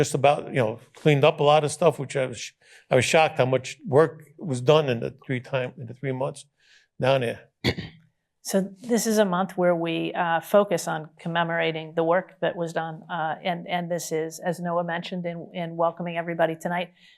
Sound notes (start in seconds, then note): 7.6 clears throat